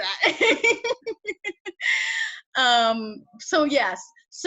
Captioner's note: laughs